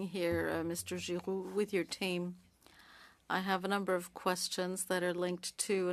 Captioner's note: speaking French